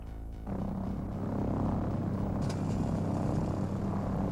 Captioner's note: plane buzzing